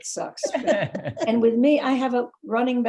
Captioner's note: laughing